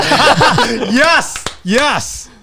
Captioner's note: laughing, clapping